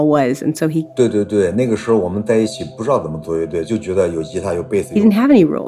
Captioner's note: speaking Mandarin Chinese